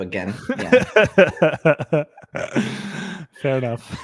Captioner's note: laughing